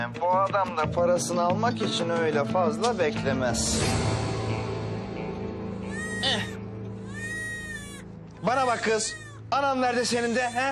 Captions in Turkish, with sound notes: Bu adam da parasını almak için öyle fazla beklemez. (Bebek ağlaması) Bana bak kız. Anan nerede senin de?